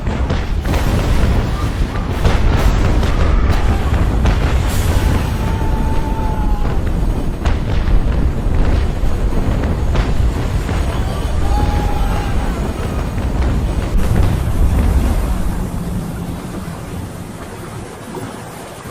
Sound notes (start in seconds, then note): 6.3 explosions booming; 6.3 soldiers shouting; 15.4 waves splashing